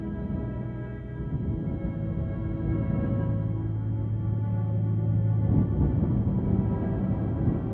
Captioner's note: wind howling